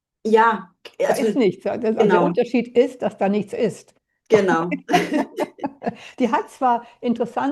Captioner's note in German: gelächter